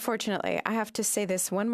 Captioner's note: speaking in French